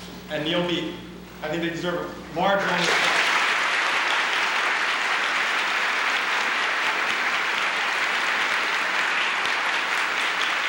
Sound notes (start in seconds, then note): 4.3 applause